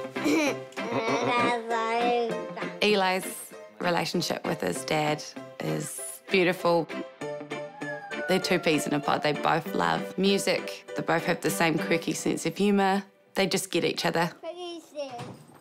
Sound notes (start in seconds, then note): 0.2 chuckles; 0.2 giggles; 7.3 squeals